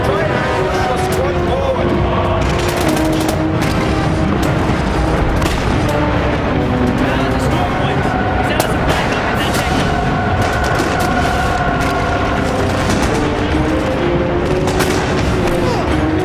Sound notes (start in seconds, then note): 2.1 guns firing